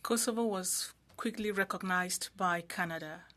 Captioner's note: speaking French